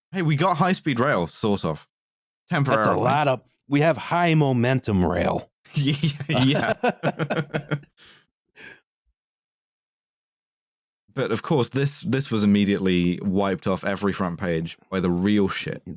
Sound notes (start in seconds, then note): 5.7 laughing; 5.7 laughter